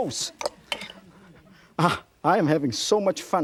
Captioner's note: audience giggling